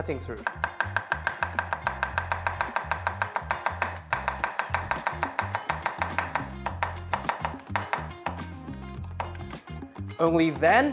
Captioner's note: chopping